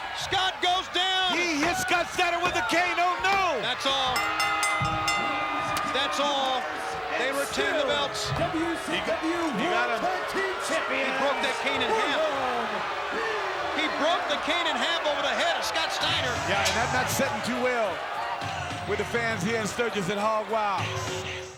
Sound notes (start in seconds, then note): 4.0 bell dinging